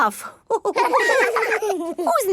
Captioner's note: all laughing